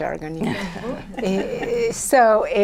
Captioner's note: laughter